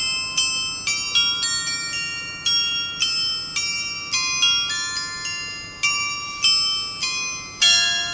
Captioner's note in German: glocke